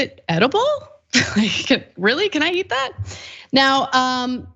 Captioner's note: laugh